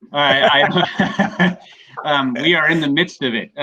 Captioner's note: laughs